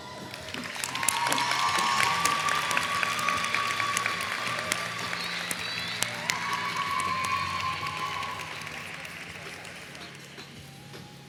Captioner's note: applause